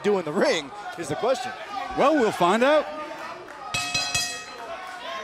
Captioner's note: bell ringing